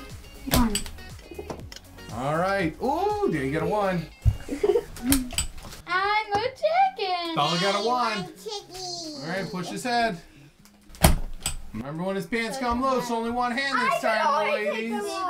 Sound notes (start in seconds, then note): 4.4 Bella laughing